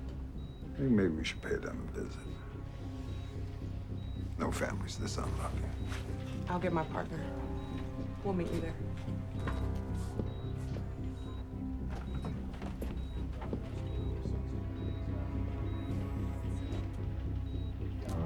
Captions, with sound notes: - I think maybe we should pay them a visit. No family's this unlucky. - I'll get my partner. We'll meet you there. (gentle tense music) (monitor beeping)